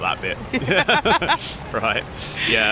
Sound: laughing

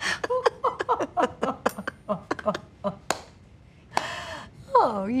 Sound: Maddie and Olivia laugh

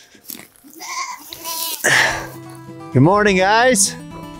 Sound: goats bleating

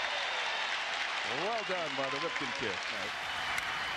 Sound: applause

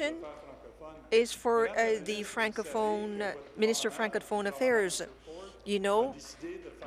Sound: speaking in French

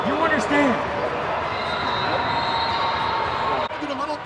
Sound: whistle blowing

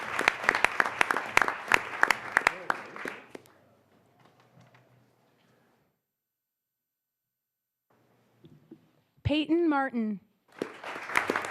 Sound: applause

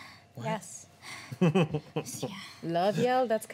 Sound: chuckling

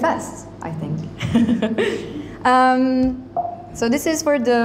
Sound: chuckles

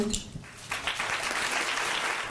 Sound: applause

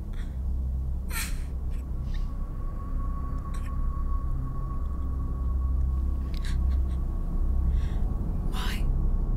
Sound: eerie Weeping

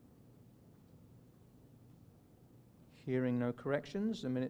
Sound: silence

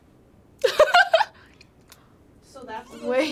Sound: laughs

